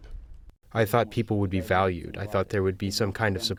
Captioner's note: through translator